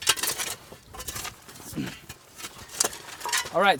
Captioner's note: cough